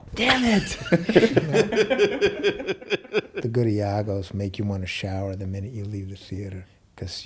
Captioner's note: laughs